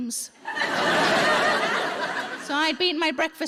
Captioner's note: audience laughing